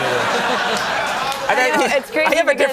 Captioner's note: audience laughing